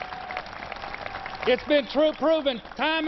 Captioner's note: applause